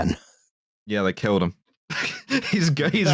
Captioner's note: laughter